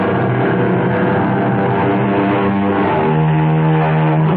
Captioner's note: engine revving